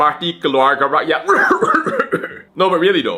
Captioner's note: cough